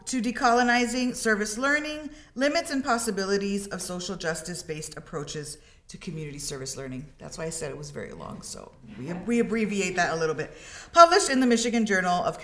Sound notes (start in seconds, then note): 9.2 students laugh